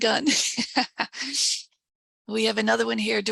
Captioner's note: laughing